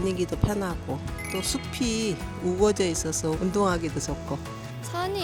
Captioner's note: sparkling sound effect